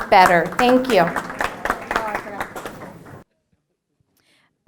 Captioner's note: applause